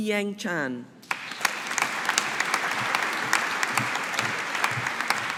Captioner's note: audience applauding